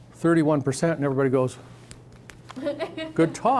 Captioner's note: scattered laughing